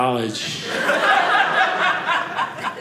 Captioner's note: audience laughing